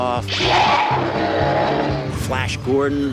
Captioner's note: roaring